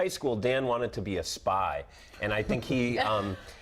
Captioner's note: laughter